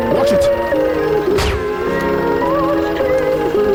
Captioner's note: gunshot popping